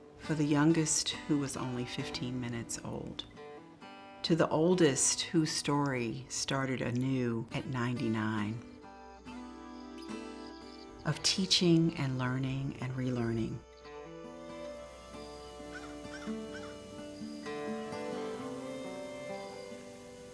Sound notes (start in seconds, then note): 0.0 gentle music continues; 14.4 bird cawing; 14.5 gentle music continues